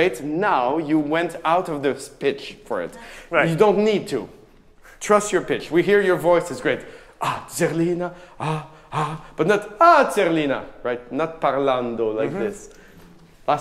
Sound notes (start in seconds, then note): 7.9 singing in a foreign language; 9.6 speaking in a foreign language